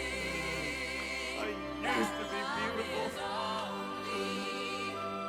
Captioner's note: sobbing